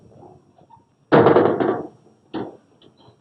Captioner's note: bang!